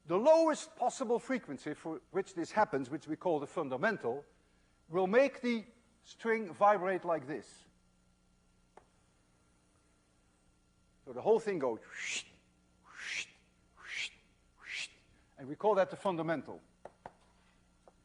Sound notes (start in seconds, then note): 13.8 wssshhht